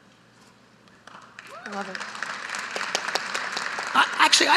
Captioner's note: audience applauding